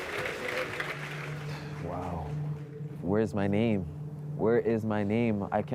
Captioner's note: applause